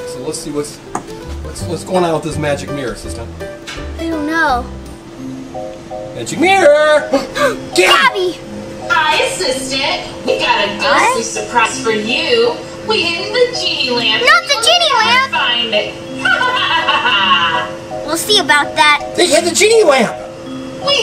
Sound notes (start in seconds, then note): 7.3 gasp; 16.2 Gabby Gabby cackles